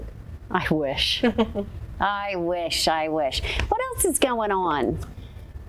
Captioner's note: chuckles